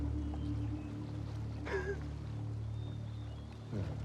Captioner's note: rire doux